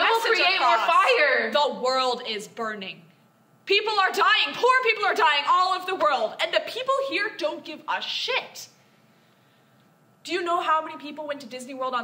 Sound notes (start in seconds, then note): none